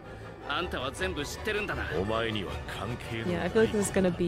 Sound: speaking in foreign language

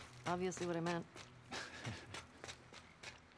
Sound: laughs

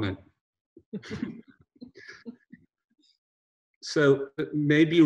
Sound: both laughing

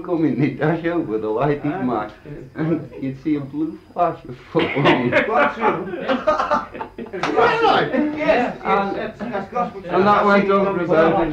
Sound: laughter

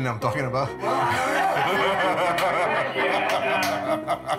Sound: laughs

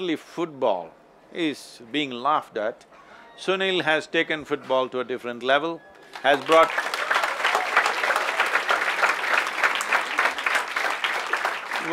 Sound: applause

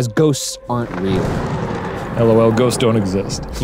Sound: thunder rumbles

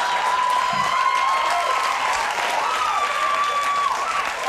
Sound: crowd cheering

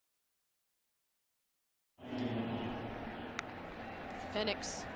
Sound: crowd noise

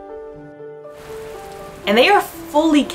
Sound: background music; quiet rainfall sound

